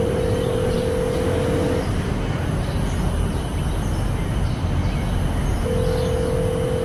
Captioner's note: birds chirping; phone continues ringing